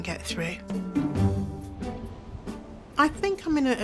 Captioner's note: energetic music; wind whooshing